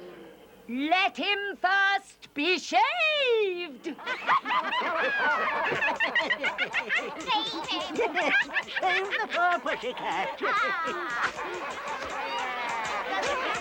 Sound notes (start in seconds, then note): 3.6 laughter; 10.2 laughter and happy chatter